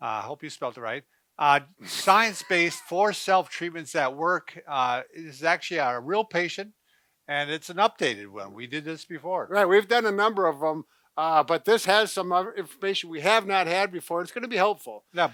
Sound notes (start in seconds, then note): 1.8 laughs